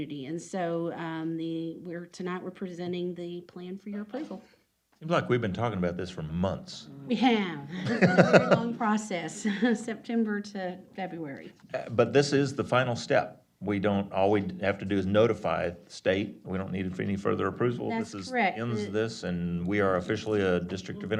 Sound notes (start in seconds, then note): 7.7 laughter